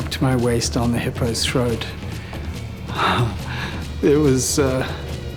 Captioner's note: breathes raggedly